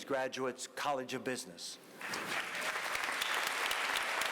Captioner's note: applause